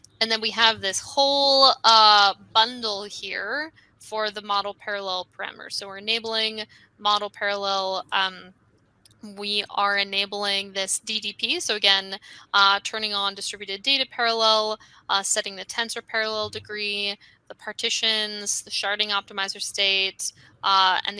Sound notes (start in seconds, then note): none